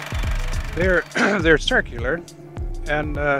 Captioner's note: film reel clicks